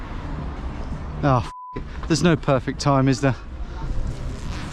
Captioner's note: beeping